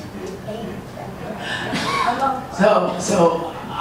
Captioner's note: audience laughs